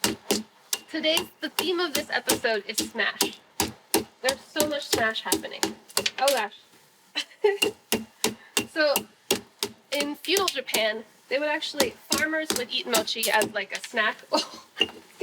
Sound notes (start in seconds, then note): 7.2 laughing